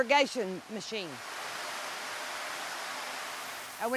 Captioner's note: natural sound: greenhouse sprinkler